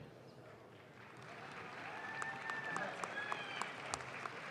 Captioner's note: audience claps